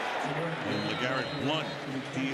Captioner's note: whistle